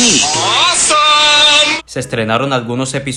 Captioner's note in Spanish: Freddy habla en japonés